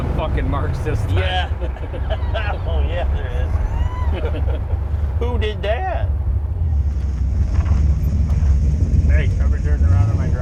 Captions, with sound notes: - Hey, someone's turned around in my driveway. - Probably turn it around in my driveway, big black car. (engine growling)